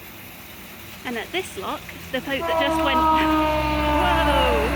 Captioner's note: train rushes past loudly